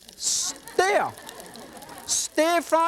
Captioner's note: audience laughs